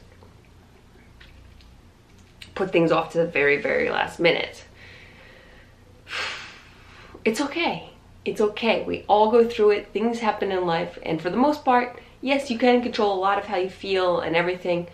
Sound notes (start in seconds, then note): 6.0 exhales